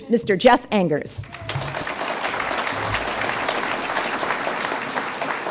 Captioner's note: audience applauds